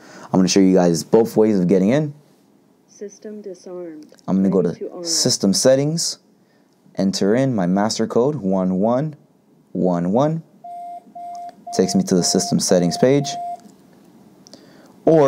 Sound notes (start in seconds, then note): 10.6 beeping